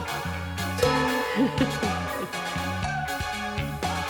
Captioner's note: gong